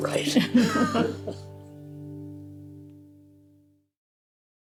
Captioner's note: both laughing